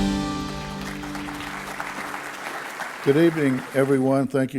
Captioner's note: audience clapping